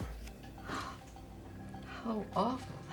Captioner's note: Flo gasping